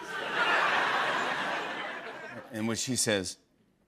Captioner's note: laughter